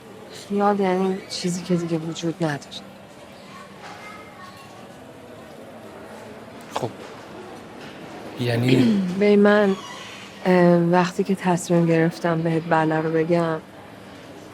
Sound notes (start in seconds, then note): none